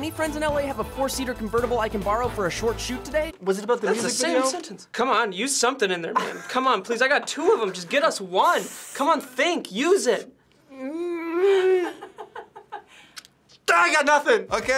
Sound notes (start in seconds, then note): 10.6 whines; 11.4 FBE chuckling